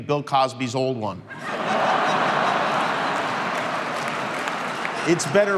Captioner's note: crowd laughing